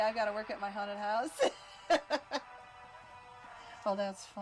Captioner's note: laughs